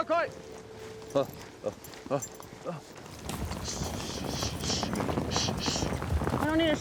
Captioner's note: hoofbeats